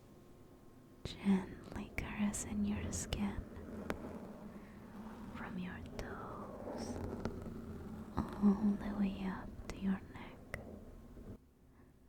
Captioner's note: accompanied by brushing sound